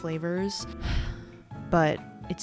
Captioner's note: sighs